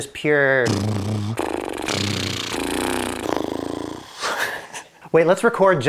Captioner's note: blows raspberry